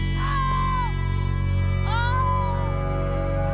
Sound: screaming

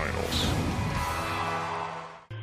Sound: cheering

